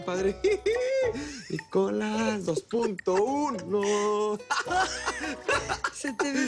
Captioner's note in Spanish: Risas